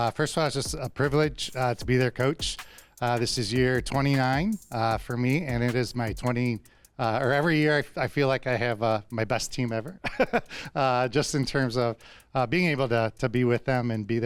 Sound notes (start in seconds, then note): 10.0 chuckles